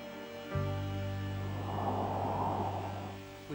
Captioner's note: wind blowing